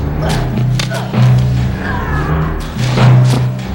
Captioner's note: grunting